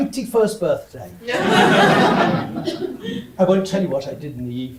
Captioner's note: audience laughs